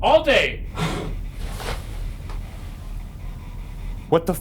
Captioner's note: entity growls